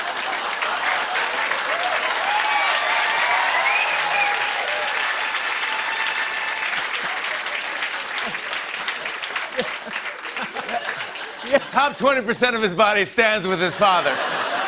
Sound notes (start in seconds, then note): 1.8 cheers and applause; 9.2 laughter